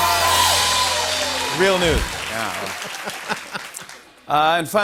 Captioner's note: laughs